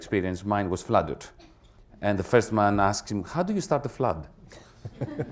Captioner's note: laughter